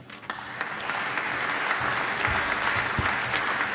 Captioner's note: applause